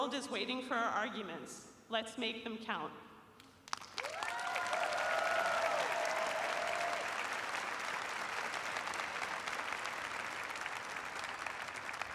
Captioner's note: cheers and applause